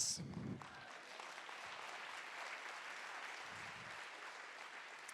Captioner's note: audience applauding